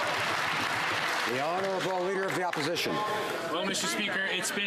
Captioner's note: some Applause